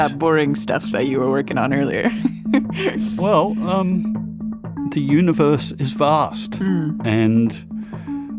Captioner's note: laughs